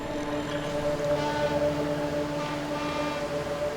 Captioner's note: ship horn blowing